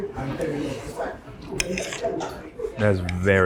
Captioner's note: people chatter; utensils scrape